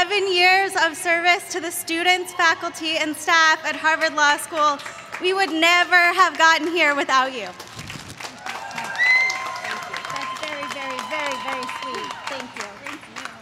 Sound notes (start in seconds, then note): 9.1 applause